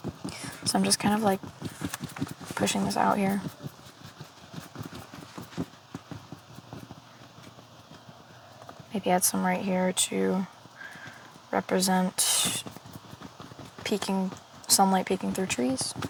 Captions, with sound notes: So I'm just kind of like pushing this out here. (Footsteps) Maybe add some right here to represent sunlight peeking through trees.